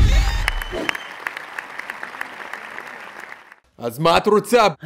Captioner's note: cue applause